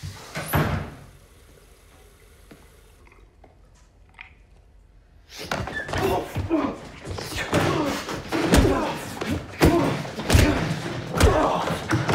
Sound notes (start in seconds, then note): 0.0 door opening; 0.2 door closing; 5.8 grunting; 7.2 hard punching